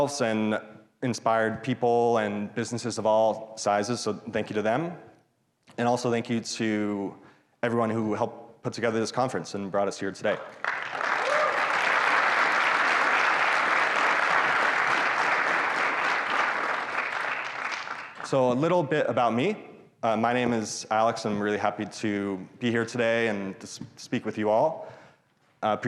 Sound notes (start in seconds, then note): 10.4 audience applauds